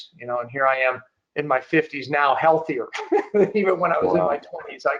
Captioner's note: giggling